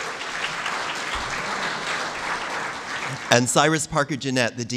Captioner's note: applause